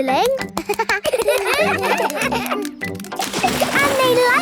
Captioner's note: children laugh